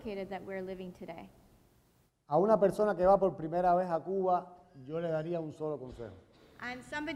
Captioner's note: speaking in Spanish